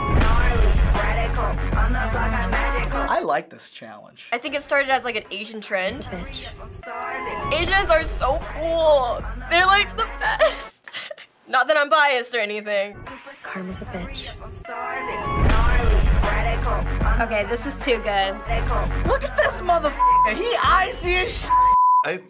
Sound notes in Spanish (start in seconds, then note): 0.0 la música se intensifica; 10.1 risitas; 15.1 la música se intensifica